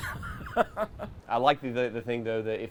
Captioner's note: laughs